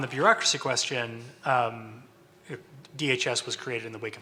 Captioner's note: stutters